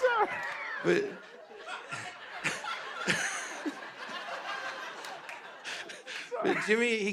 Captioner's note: laughter